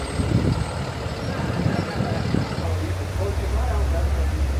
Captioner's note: all laughing; engine running